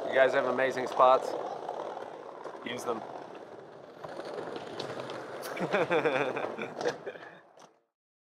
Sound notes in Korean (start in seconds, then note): 5.4 웃음